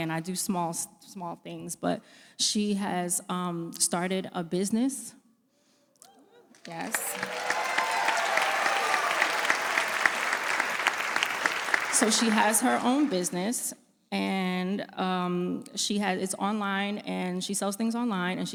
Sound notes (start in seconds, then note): 6.5 applause